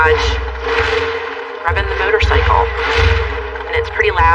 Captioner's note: engine revving